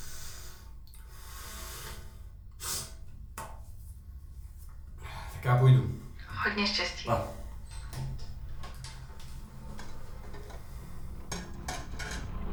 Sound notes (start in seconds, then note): 6.5 over Phone